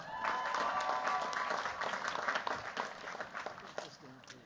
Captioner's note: cheers, applause